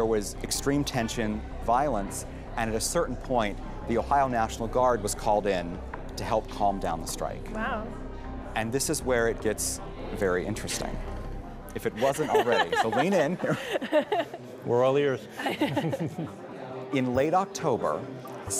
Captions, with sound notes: There was extreme tension, violence, and at a certain point, the Ohio National Guard was called in to help calm down the strike. Wow. And this is where it gets very interesting, if it wasn't already. So, lean in. We're all ears. (chuckling) In late October,